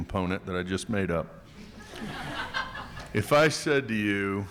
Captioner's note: attendees laughing